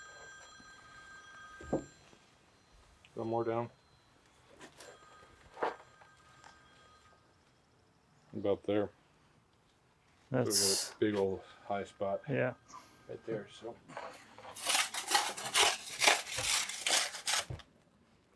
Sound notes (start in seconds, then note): 0.0 phone ringing; 5.4 phone ringing; 14.4 shovel scraping